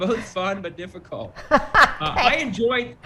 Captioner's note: laughing